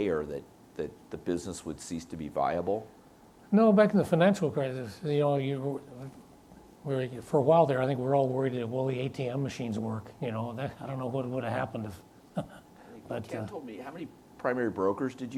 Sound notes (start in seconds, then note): 12.3 chuckles